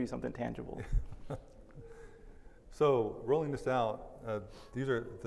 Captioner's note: laughs